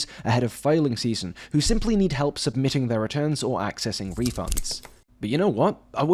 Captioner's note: snip